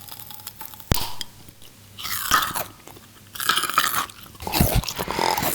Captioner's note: crunching